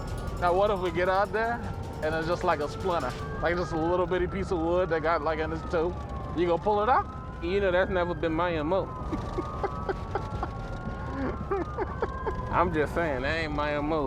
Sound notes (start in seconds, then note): 9.1 laughs; 10.9 siren blaring